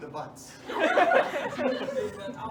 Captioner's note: laughter